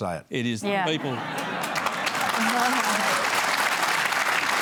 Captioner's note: laughter